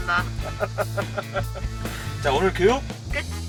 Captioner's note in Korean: 웃음